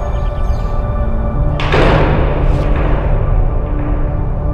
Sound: door slams

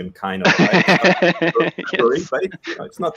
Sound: laughs

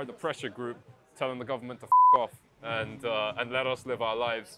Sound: beep

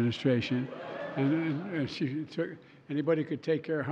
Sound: laughter

